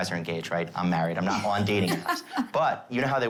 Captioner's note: laughs